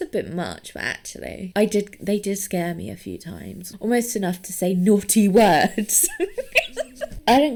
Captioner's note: laughs